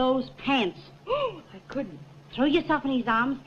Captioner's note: gasps